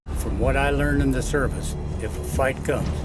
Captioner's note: voiceover